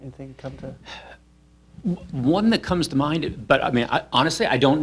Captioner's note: sighs